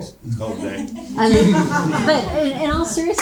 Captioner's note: audience laughing